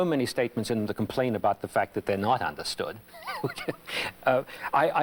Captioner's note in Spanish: Risas